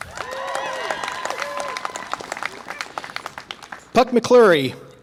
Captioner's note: audience applause and cheer